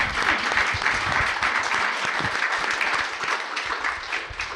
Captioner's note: audience clapping